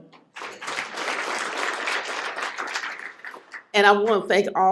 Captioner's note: applause